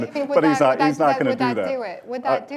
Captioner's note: laughs